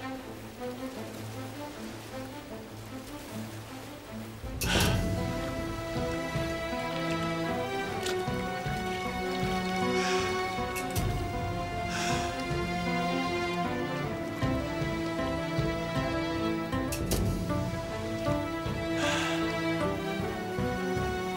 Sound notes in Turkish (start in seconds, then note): 9.7 Nefes alıp veriyor